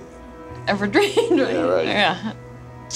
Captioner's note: laughs